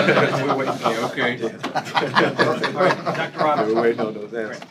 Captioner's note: laughter